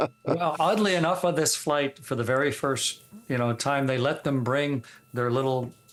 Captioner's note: laughter